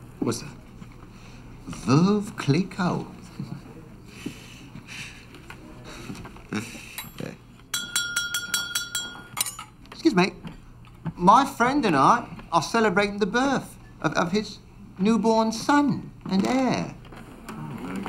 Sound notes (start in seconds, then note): 6.5 chuckles; 7.6 glass clinks; 17.8 men applaud